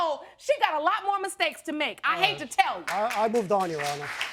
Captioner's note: audience applauding